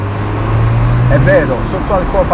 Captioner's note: engine at more low rpm; acceleration in first gear